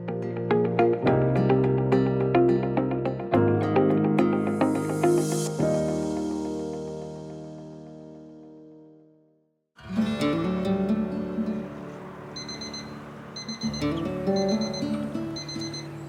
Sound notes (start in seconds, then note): 0.1 gentle electronic music; 9.8 gentle guitar music; 12.1 alarm beeps